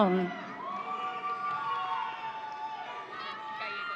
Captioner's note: audience cheering